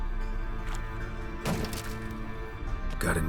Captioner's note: thud